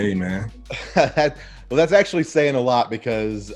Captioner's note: chuckles